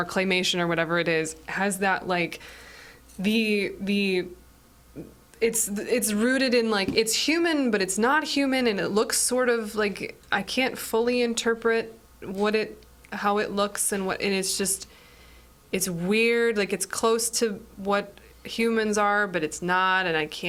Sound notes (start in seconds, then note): none